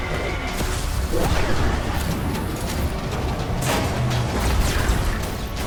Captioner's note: lasers blasting; creature roaring